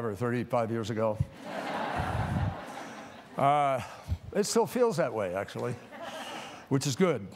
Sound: laughter; laughter

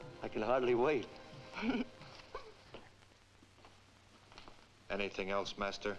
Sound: Nona chuckles

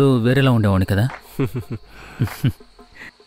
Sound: chuckles

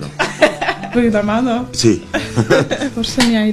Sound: giggles

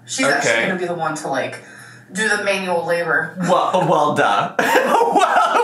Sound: laughing

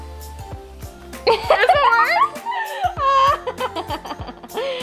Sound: girls giggling

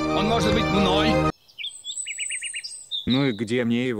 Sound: beautiful forest birdsong

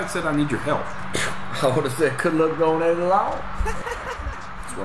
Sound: laughs

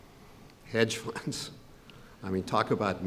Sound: chuckles

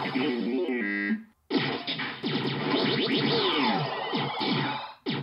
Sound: lasers fire

